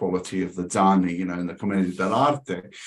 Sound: speaking in foreign language

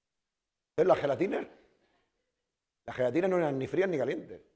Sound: speaking spanish

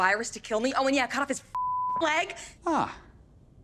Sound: beep

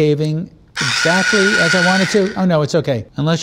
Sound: buzzing

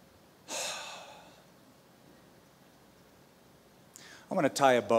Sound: sighs

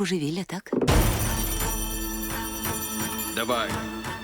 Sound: tense music playing; bell ringing

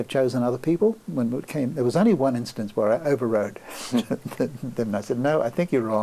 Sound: laughs

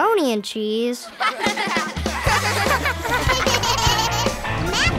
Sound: laughing

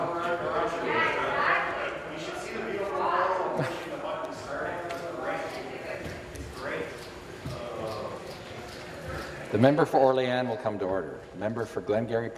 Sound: mixed voices

